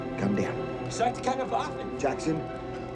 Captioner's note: Fritz speaking in foreign language